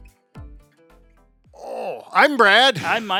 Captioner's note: groaning in pain